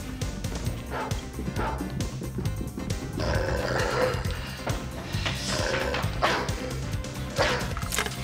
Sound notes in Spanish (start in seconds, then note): 0.9 el perro ladra